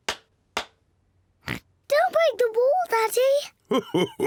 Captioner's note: oinks; chuckles